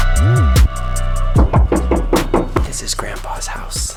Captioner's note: knocking